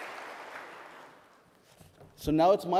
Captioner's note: applause